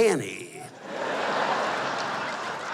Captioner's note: laughter